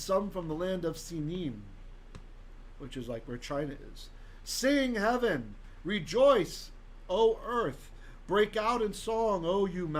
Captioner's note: Hebrew